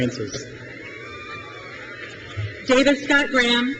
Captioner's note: crowd cheers